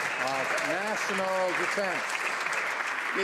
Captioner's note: some Applause